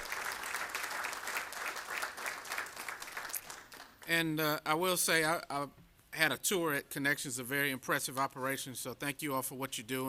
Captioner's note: applause